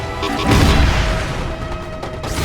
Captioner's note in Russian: бущ